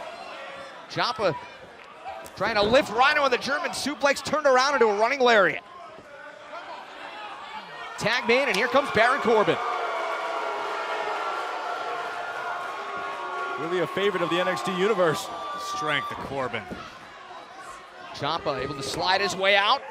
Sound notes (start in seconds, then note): 7.5 crowd chatter; 11.9 crowd cheering